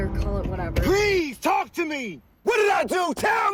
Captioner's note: shouts